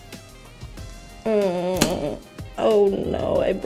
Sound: groaning

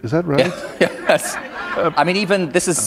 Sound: laughter

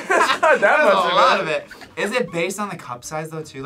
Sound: laughs

